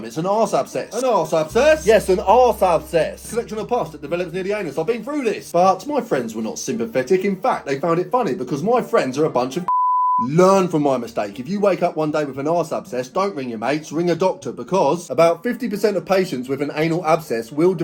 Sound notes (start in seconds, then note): 9.6 beep